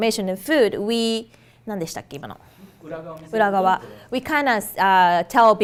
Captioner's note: speaking foreign language